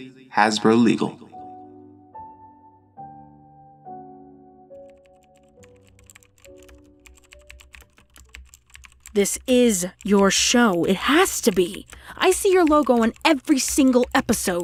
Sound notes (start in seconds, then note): 5.6 typing sounds